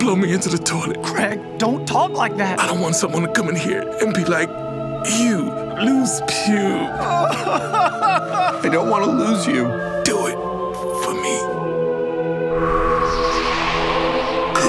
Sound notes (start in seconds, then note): 6.6 hair sobbing; 12.5 blowing air